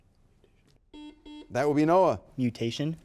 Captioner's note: buzzer buzzing